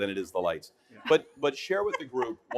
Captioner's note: everyone laughing